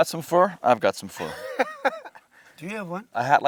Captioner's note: laughign